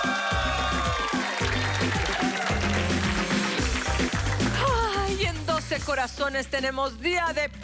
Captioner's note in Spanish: Gritos y exclamaciones